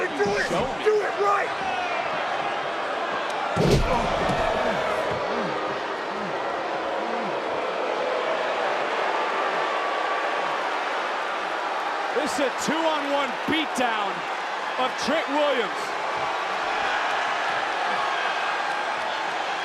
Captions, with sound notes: You wanna do it? Show me? Do it right! (crowd boos) This is a two on one beat down of Trick Williams.